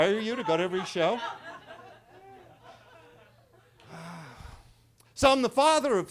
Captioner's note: attendees laughing